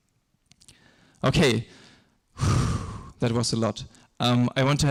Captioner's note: exhales forcefully